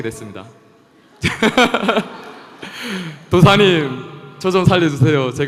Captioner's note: questioner/Audience Laughter